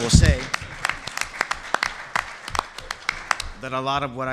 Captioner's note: applause